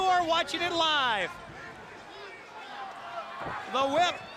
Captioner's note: crowd chatter